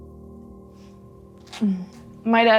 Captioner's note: sniffle